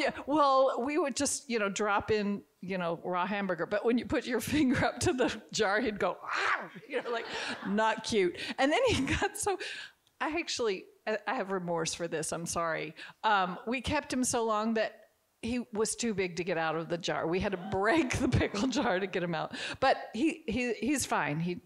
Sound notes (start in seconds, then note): 6.6 growls; 6.8 audience chuckling